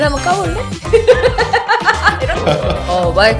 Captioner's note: ha ha